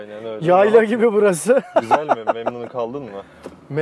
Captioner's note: laughings